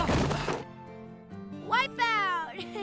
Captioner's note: laughs